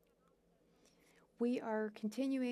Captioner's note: speaking French